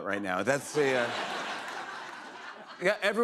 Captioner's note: laughter